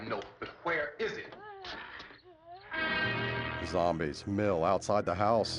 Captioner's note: groaning